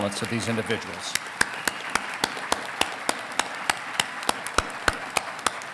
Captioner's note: congregation clapping